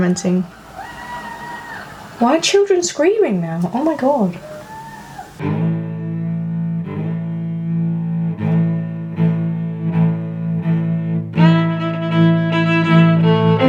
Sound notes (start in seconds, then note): 0.1 background screaming; 4.3 more screaming